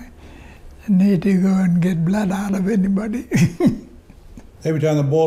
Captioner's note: laughs